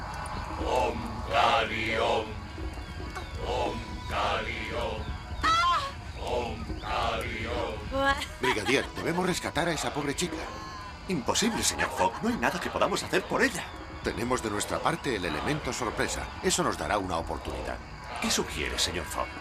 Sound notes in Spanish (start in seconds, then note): 5.3 grita